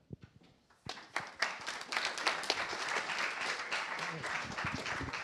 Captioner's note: applause